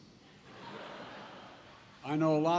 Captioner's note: laughter